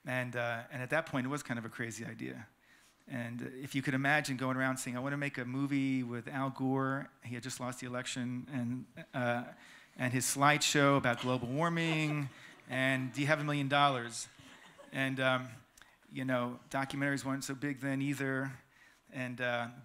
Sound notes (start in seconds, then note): 11.7 laughter